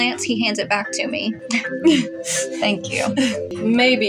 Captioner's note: chuckle